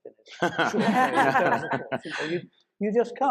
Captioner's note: panelists laughing